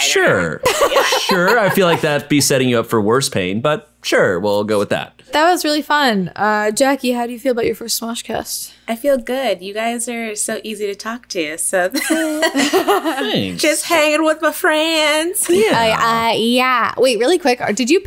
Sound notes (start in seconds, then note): 12.0 all laughing